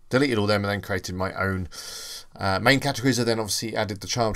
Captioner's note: inhale